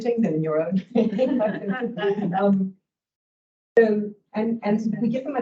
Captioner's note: both laugh